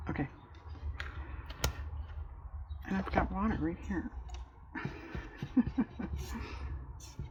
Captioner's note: laughs